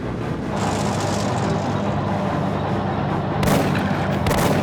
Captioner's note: tank rattling; tank machine gun booming; tank rattling